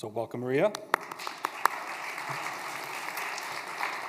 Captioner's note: applause